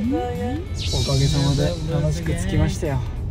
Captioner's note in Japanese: 効果音 シャキーン✨